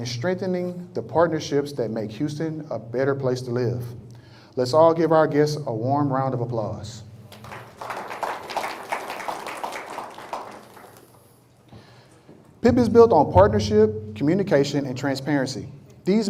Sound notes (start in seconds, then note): 7.3 applause